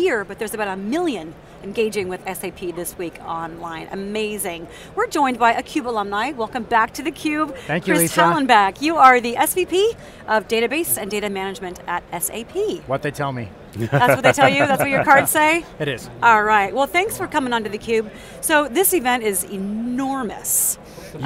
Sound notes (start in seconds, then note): 13.8 laughter